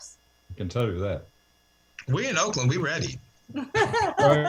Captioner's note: laughter